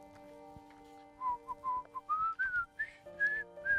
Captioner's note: whistling